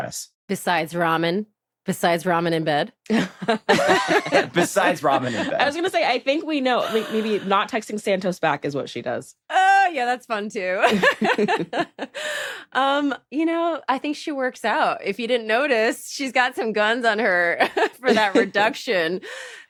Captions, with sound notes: Besides ramen? Besides ramen in bed? (LAUGHTER) Besides ramen in bed. I was gonna say, I think we know. Maybe not texting Santos back is what she does. Oh, yeah, that's fun too. (LAUGHS) You know, I think she works out. If you didn't notice, she's got some guns on her for that reduction.